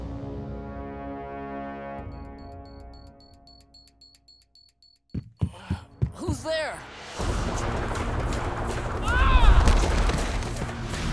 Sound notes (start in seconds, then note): 5.1 knocking; 9.0 screaming